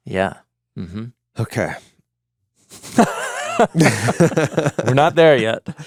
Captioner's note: chuckling